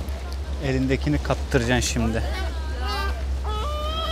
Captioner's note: seagull